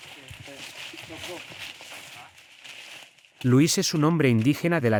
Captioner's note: people chattering